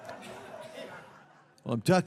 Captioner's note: audience laughs